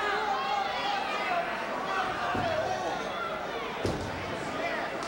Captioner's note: spectators cheering